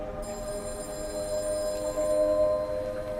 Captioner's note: telephone ringing